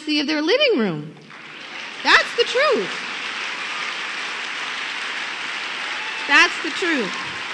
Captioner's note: applause